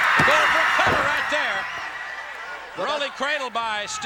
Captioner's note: crowd cheering